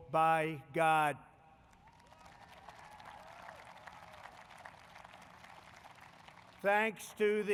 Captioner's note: applause